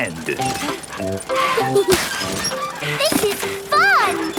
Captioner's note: mummy and daddy pig panting; peppa and george laughing